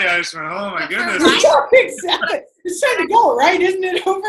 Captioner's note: laughter